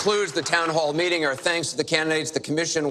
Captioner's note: applause